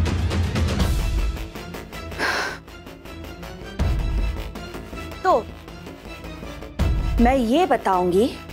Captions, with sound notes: [exhaling sharply] So, I will tell them